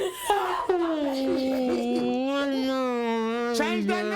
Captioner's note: crying and moaning